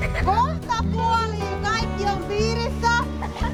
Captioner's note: speaking Finnish